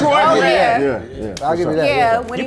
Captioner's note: claps